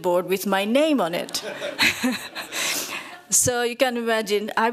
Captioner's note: audience laughs